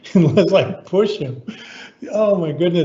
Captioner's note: laughing